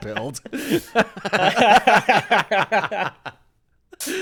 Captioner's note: laughing